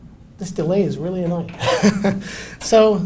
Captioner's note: laughs